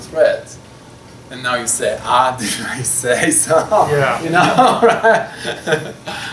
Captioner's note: laughs